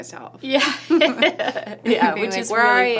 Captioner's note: laughing